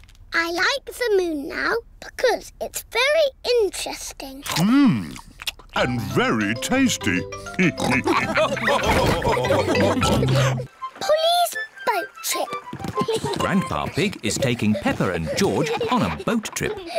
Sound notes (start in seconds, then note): 7.6 all laugh